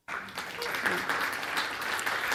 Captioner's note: audience clapping